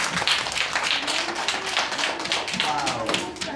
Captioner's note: clapping